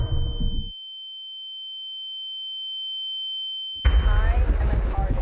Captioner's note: ominous musical score; high pitched tone; urgent music